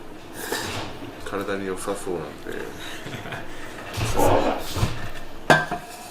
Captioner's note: laughs